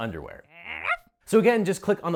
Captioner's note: dog barks